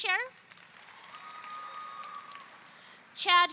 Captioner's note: audience cheering